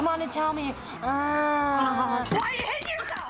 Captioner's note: moans